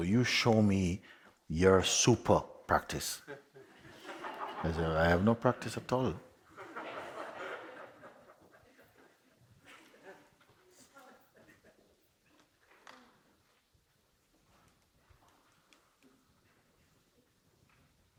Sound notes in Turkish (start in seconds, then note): 3.2 Kahkaha; 6.5 Kahkaha devam eder; 13.7 Kahkaha diner, şimdi sessizlik